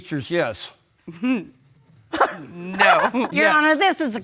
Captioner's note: laughter